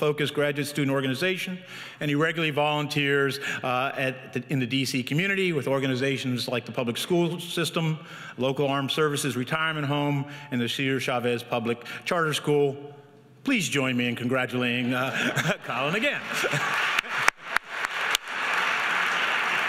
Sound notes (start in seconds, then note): 14.8 laughs; 15.8 audience applauds